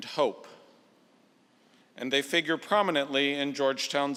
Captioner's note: none